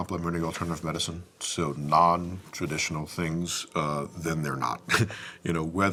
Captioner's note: chuckles